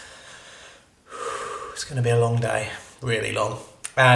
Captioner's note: sighing